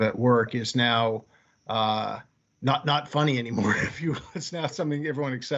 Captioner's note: laughing